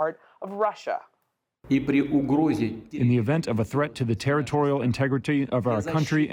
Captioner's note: through translator